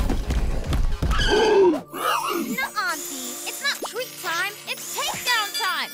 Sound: gasps

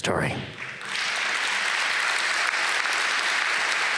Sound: applause

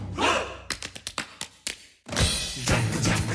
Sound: rhythmic handclaps

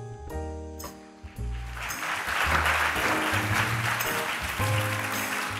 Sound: audience applauds

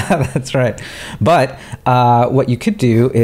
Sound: laughing

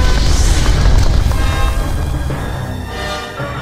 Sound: flames roaring; dark ominous music

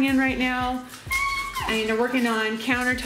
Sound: squeals

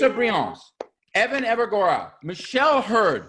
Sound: hands clapping

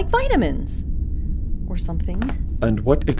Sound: mutters

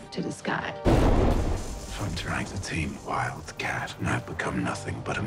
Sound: thunder clap

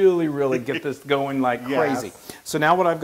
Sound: laugh

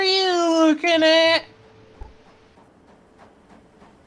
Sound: train sounds

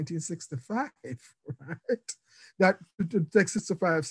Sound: laughing

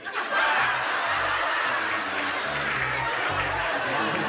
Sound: laughter

